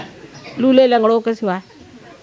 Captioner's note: yogis laugh